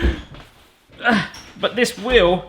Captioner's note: grunt